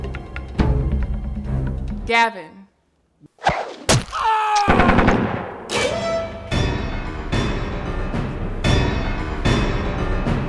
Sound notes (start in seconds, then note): 4.1 Gavin screams; 4.7 gun fires; 4.8 dramatic music